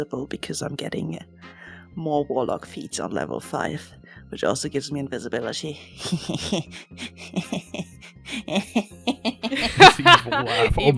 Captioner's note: cackles